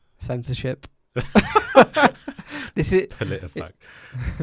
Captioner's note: laughing